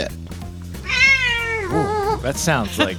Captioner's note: cat meows